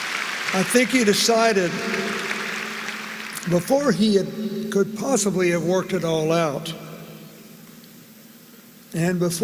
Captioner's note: applause